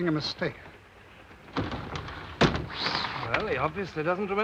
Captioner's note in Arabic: صوت الباب ينغلق